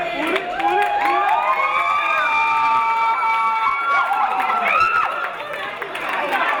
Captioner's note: audience cheering and applauding